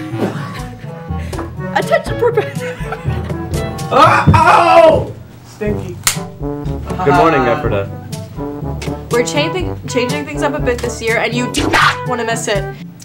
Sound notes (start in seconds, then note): 0.2 laughter; 2.6 stammering